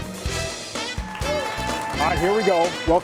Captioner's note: upbeat music; audience applauding